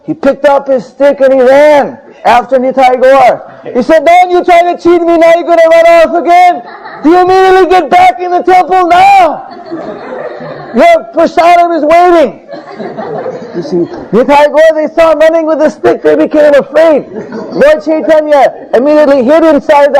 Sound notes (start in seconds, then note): 12.2 devotees laughing; 16.8 devotees laughing again